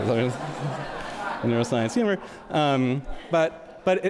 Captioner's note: audience laughs